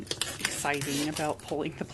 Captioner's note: riiiip